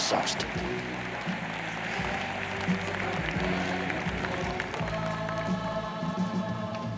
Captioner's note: audience applauds; upbeat French vocal music